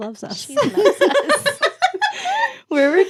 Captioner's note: laughing